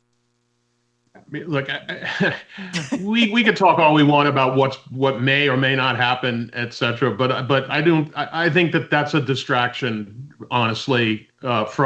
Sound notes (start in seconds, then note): 2.7 laughs